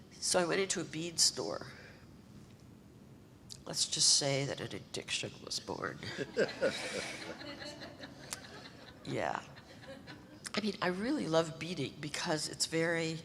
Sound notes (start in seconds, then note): 6.1 audience laughter